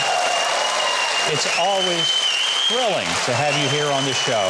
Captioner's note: audience cheering